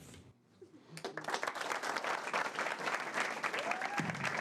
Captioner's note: class applauding